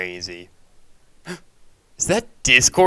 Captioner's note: gasp